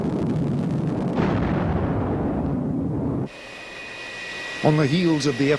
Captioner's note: missile exploding